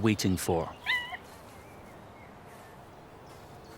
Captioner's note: cubs yelp